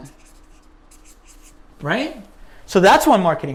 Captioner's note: pen writing